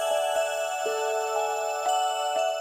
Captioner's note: none